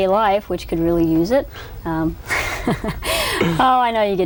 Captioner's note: laughs